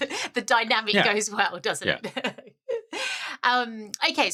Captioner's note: laugh